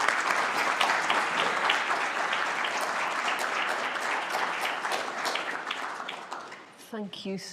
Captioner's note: applause